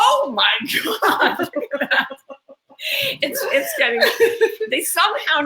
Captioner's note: laugh